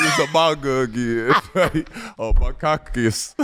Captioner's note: laughing